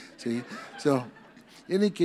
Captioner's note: audience laughs